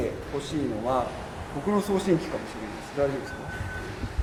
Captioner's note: the one that makes a beeping sound